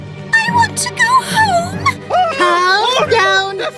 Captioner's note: whining